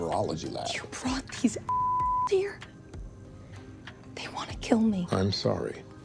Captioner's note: beeping